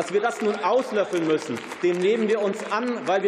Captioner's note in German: Beifall